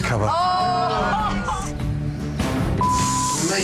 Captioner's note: crowd yelling loudly